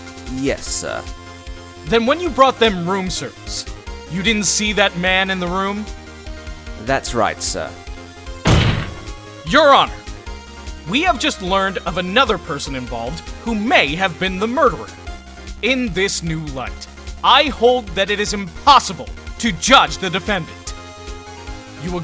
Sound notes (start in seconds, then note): 8.4 slam